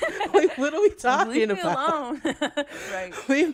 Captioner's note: laughter